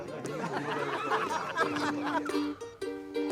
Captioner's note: laughter; mandolin music plays